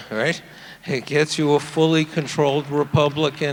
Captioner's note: audience applauding